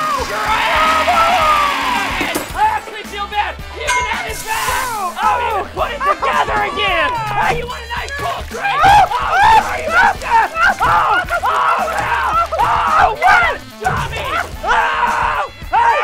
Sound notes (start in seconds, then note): 0.0 yelling; 9.7 shouting